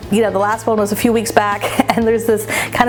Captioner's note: chuckling